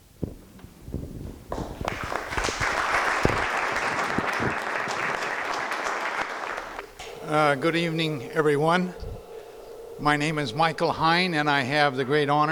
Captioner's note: crowd applause